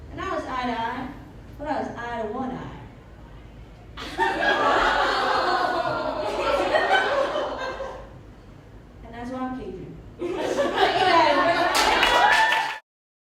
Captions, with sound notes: And I was eye to eye but I was eye to one eye (Laughter and groans) And that's why I'm cajun Thank you guys! (Applauds and laughter)